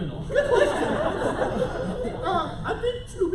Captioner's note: laughter